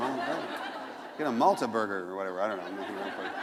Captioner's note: laughter